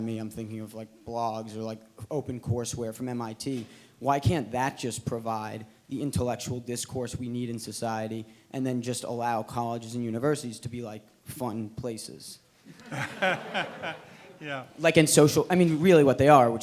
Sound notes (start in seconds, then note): 12.8 everyone laughs